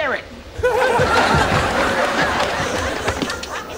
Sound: audience laughs

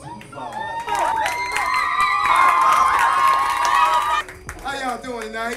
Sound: crowd starts cheering

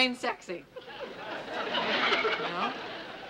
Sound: laughter

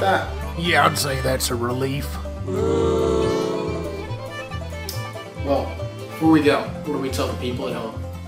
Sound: boos

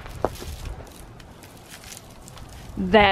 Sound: ice on the tree branch rustling

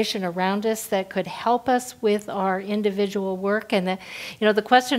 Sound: none

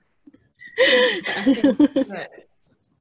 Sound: laughs

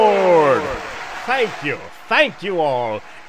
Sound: applause

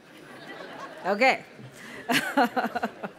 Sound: audience laughing; laughing

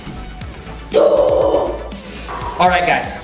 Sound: yelling

